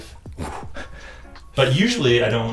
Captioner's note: exhales sharply